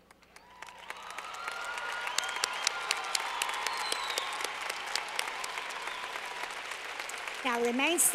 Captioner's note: clapping